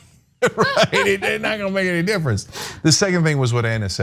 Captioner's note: laugh